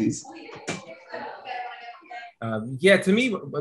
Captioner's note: people chatting in background